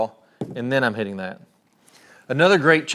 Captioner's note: club thuds